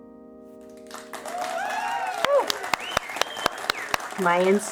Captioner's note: applause